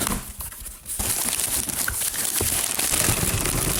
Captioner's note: box fumbling; paper rustling; box rattling